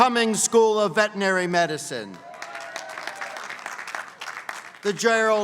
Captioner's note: applause